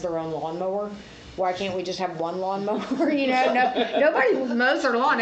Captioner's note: laughs